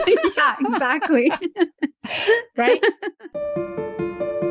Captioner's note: laughter